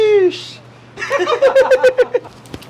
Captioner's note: laughter